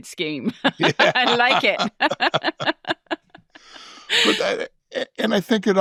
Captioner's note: chuckling